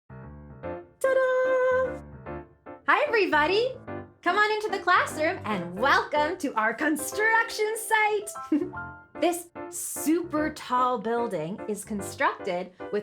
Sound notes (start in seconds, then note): 0.3 upbeat piano music; 8.5 giggles